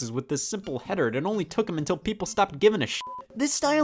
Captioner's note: beep